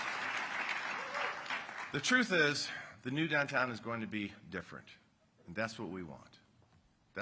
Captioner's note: applause